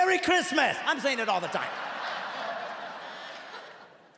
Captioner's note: laughing